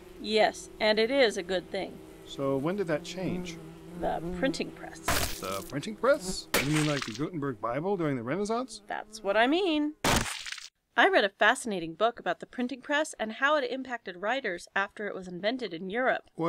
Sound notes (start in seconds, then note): 5.1 splat sound; 10.0 splat sound